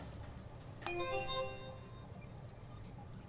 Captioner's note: soft computer alert